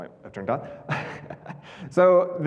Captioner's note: chuckling